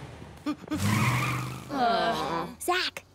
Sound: sighing

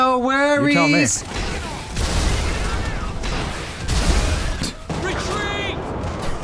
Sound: explosions

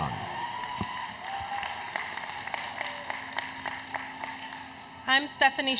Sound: applause, Cheering

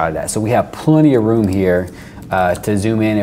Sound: none

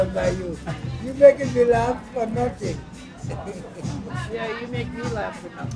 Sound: laughs

